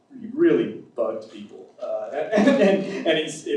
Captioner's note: laughs